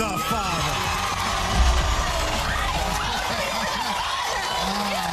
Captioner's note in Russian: Аплодисменты